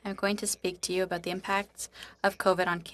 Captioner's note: speaking French